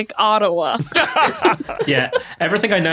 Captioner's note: group laughing